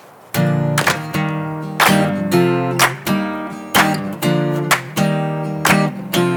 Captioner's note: upbeat guitar music; worshipers clapping